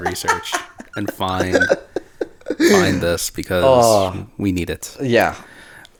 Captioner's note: laughs in trauma